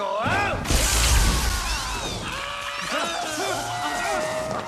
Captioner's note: squeaks of terror